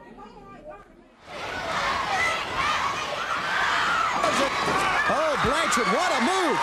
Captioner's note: crowd chatter